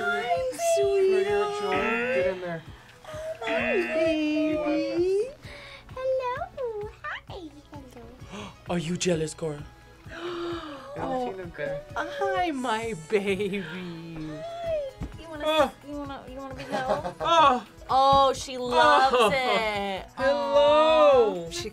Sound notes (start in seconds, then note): 3.4 buzzer rings; 10.0 gasps